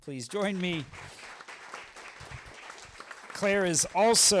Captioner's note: applause